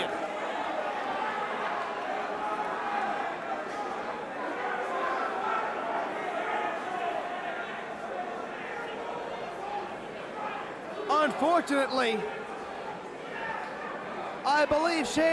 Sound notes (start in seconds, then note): 1.9 crowd chatter